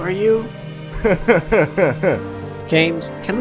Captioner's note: laughs